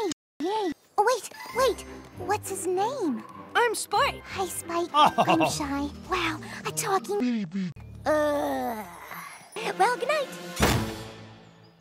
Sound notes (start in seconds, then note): 10.6 slam